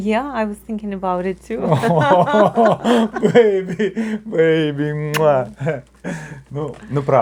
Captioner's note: laughter, audible kiss